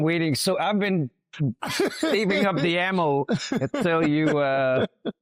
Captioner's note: laughs